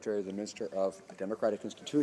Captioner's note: some Applause